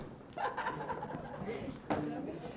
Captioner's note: laughter